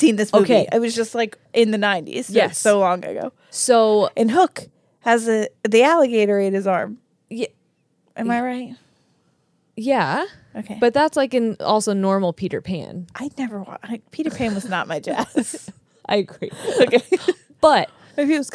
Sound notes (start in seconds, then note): 14.4 chuckles